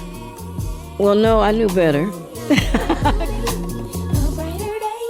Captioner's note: laughing